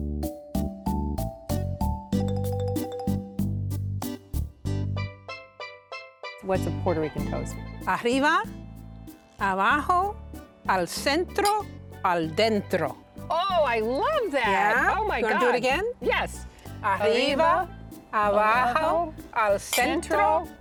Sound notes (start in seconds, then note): 0.3 cheerful music continues; 8.5 speaking Spanish; 17.5 both speaking Spanish